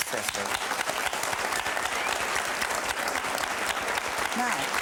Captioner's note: crowd applause